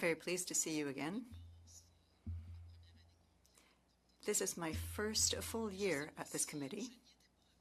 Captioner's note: speaking French